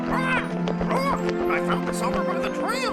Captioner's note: צווחות